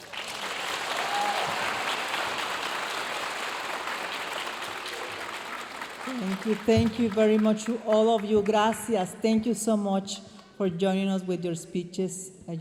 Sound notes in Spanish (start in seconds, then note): 0.0 aplausos y vítores de la audiencia; 6.2 hablando en inglés